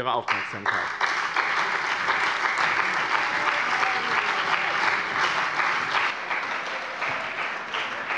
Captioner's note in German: Anhaltender Beifall bei dem BÜNDNIS 90/DIE GRÜNEN und der CDU